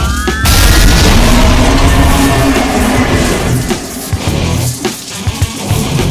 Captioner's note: sword whirring; explosion booms; beast roars